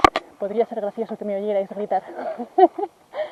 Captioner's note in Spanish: Se ríe